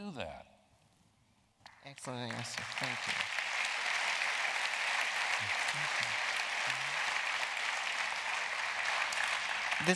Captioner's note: applause